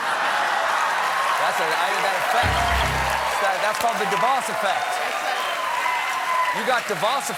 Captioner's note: cheers and applause